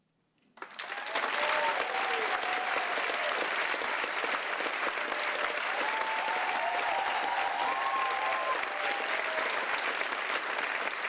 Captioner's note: applause